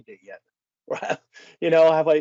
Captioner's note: laughing